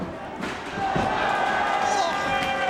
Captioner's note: spectators exclaiming